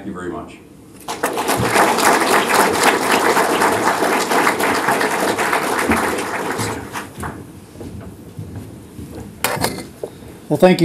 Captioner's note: applause